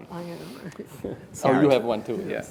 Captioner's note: laughs